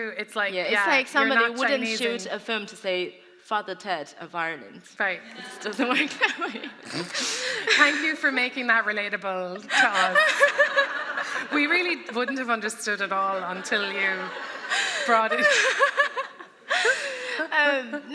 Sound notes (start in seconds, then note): 5.4 laughter; 16.0 laughter